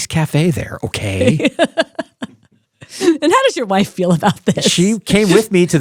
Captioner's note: laughs